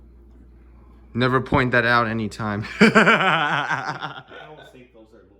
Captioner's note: laughing